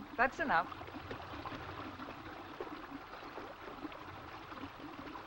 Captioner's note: water bubbling